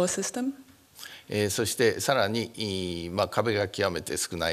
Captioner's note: speaking japanese